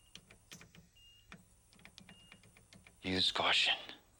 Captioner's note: machines beeping